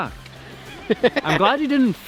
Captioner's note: laughing